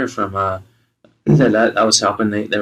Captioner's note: clears throat